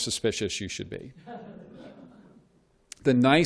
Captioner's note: laughter